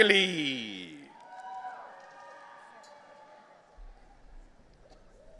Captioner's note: audience cheering